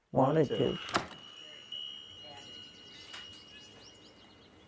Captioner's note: bell ringing